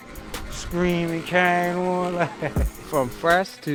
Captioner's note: laughs